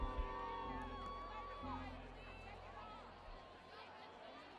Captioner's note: people cheering